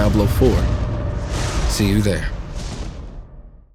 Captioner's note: trovão ressoa